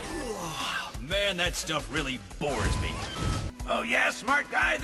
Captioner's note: yawns